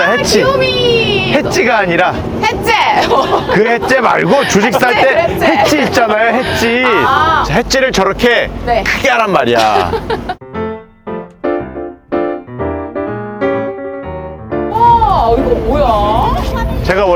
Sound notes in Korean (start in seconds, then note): 9.5 웃음; 10.4 유쾌한 음악